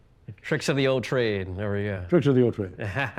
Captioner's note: chuckles